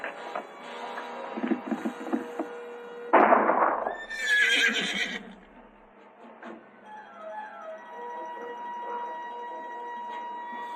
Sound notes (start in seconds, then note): 3.1 gunshot; 3.9 horse neighs; 8.4 disquieting music